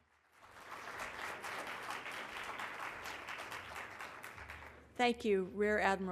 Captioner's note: applause